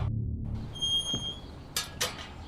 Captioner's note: shutting gate